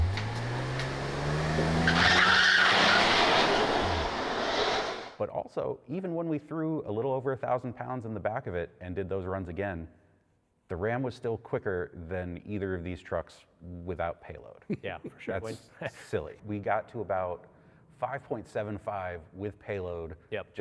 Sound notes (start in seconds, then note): 0.0 engine revving; 2.0 tires screeching